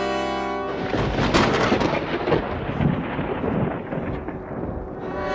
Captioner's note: thunderclap